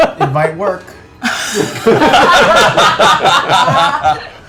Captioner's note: laughter